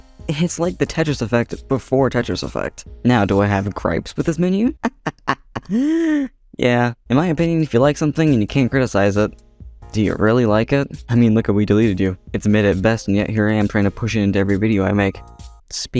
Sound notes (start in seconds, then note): 4.6 laughs